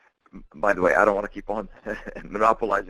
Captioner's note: chuckles